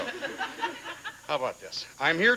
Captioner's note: audience laughing